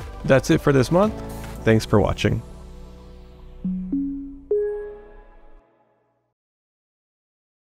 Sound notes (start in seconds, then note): 3.7 graphic blips